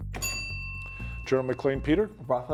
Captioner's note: bell ringing